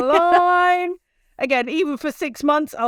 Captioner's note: laughs